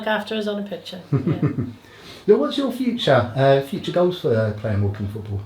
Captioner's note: laughs